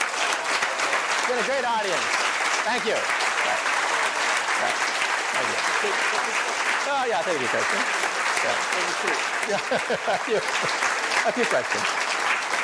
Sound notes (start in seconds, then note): 8.3 laughing